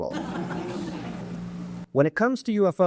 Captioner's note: audience laughs